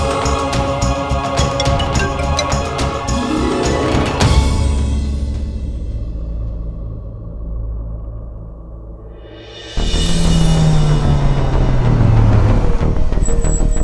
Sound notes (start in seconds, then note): 10.3 Car halting